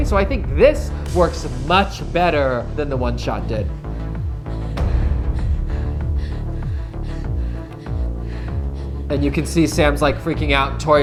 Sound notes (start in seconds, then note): 3.6 girl breathes heavily